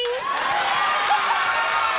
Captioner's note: audience cheers; Nancy laughs